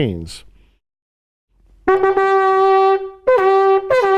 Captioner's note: horn blowing